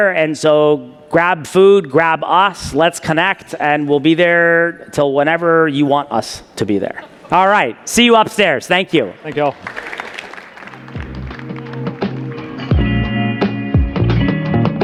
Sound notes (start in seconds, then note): 9.2 audience applauding; 10.6 bright upbeat music